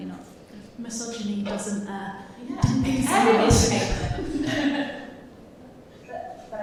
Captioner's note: laughs